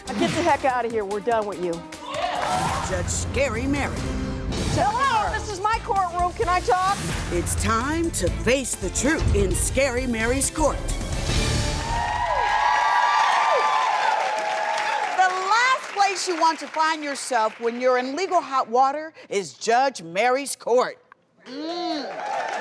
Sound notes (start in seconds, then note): 2.0 cheering; 11.0 dramatic music; 11.7 cheering; 22.0 cheering